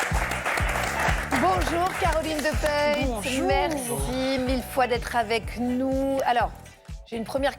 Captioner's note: applause